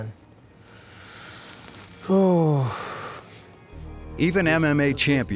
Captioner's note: sighs